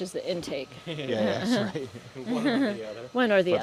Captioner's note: laughter